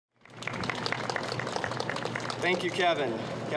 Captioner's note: applause